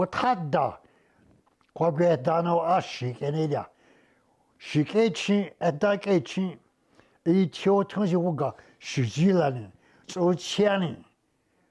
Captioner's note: speaking Indigenous Language